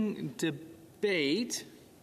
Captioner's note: speaking French